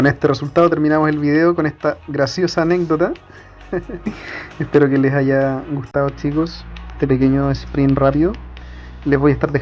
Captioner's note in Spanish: risas